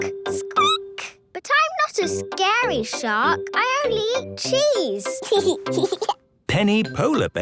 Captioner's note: squeaking; giggling